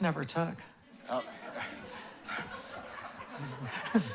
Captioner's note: laughter